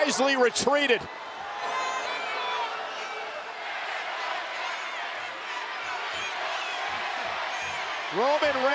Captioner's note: applause